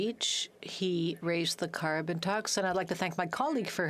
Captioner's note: speaking French